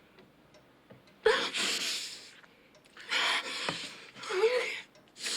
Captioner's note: Rebecca moans